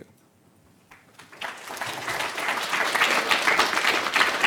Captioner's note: applause